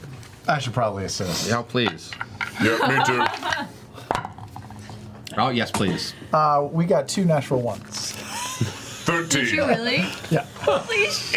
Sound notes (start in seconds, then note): 8.0 laughs